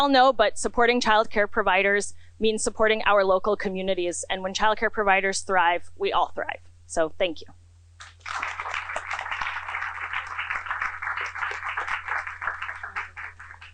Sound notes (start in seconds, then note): 8.0 applause